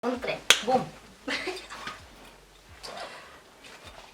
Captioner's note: laughs